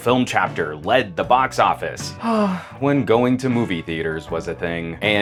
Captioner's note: sighing